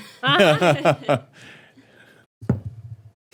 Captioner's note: laughing